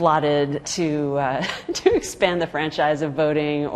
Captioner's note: laughing